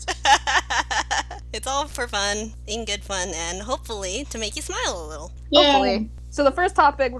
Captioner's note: laughter